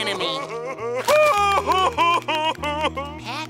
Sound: crying

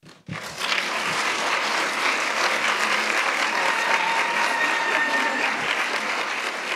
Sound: applauds

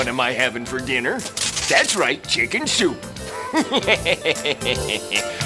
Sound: chuckles

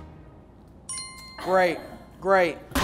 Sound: bell ringing

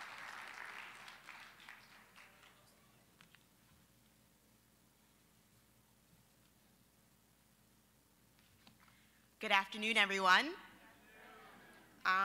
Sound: applause

